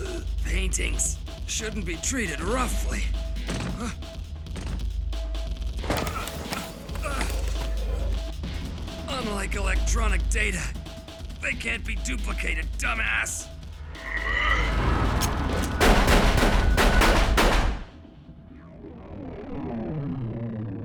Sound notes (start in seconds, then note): 3.5 gasps; 6.8 grunts; 13.9 straining; 18.4 electronics shuts down